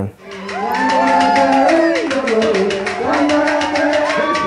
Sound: cheering, drumming and singing in Spanish

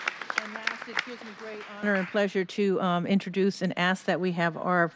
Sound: applause

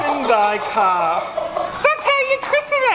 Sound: everyone laughs

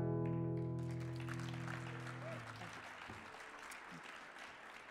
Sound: audience applauding

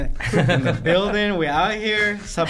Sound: laughing

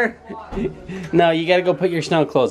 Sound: laughing

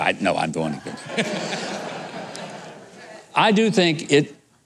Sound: audience laughing

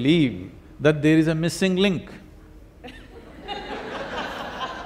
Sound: laughter

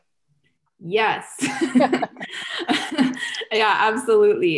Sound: laughter

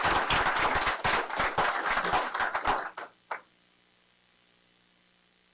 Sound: applause

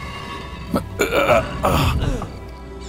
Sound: grunts

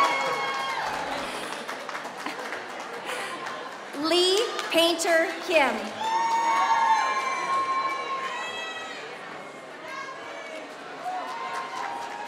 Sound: applause

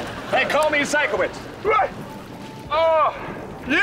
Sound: groaning

